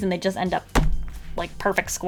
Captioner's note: bam